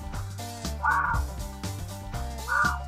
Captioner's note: actual fox noise